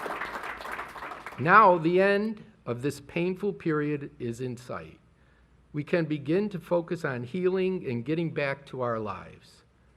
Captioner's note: applause